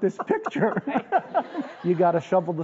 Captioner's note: laughing